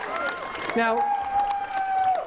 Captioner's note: cheering